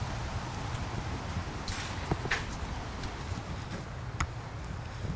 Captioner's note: none